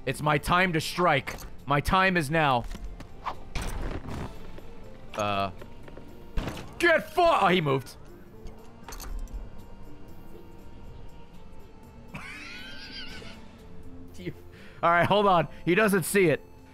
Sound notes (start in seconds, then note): 12.1 laughs